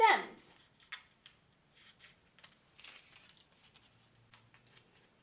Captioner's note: paper rustling